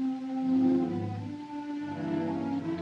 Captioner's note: none